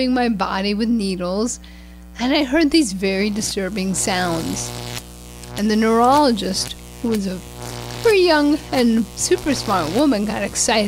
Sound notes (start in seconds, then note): 3.2 sounds from an EMG test